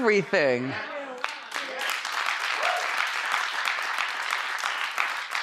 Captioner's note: crowd applauding